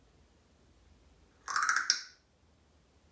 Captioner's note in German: cracking sound